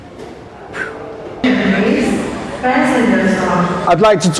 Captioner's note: loud airport announcements